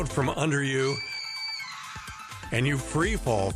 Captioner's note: girl screams